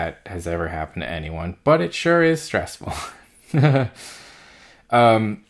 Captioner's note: laughs